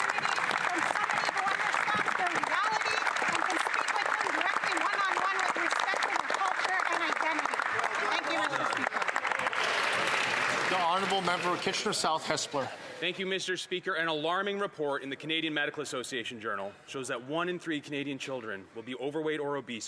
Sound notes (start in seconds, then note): 5.4 applause